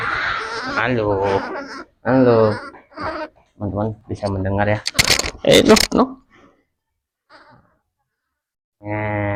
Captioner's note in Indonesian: tertawa; berdehem